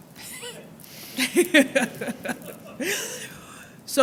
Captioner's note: laughter